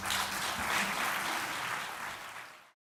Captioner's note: applause